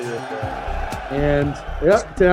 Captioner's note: bell ringing